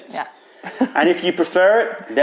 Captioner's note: laughter